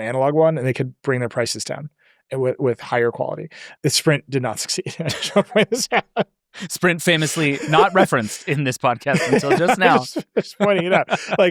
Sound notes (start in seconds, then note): 4.8 laughs; 9.0 both laughing